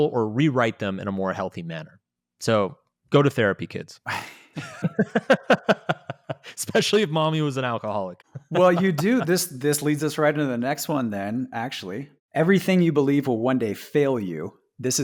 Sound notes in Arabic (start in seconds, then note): 4.1 يضحكون